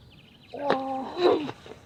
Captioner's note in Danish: grynter